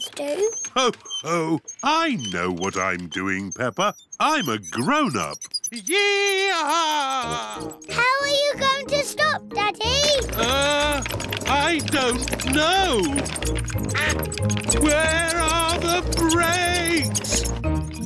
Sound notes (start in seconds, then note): 13.9 quacking